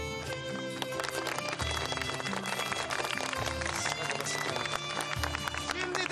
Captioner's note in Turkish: Alkışlar